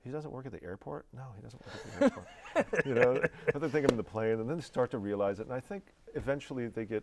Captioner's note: laughing